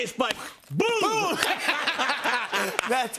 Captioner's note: laughter